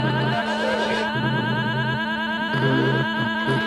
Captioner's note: wargs howling